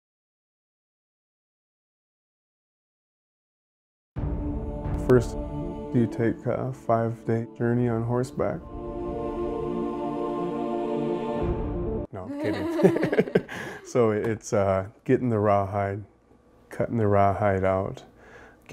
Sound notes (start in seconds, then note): 12.2 laughs